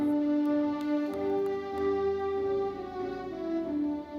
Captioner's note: guest applauds; gentle classical music continues